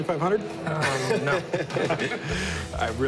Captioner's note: laughing